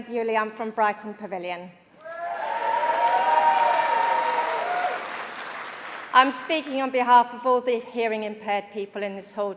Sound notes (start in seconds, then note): 2.0 applause; 5.4 cheering